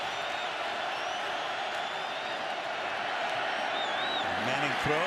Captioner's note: cheers